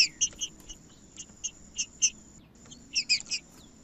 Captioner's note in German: trinca ferro cantando